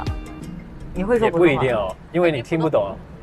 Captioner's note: Mandarin